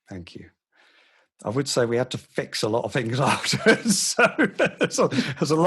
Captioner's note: laughs